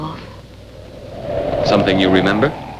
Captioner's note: wind howling